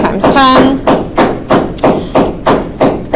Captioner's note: banging